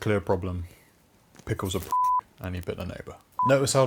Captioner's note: beep